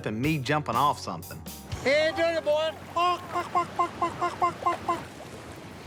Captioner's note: clucking